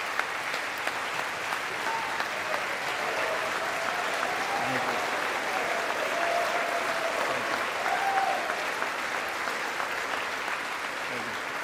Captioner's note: applause